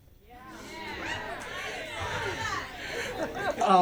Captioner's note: women in audience exclaim in agreement